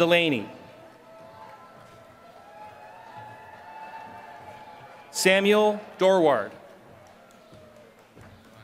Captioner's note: applause